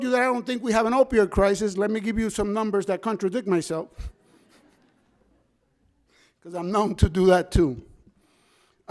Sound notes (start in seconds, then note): 4.2 audience members laugh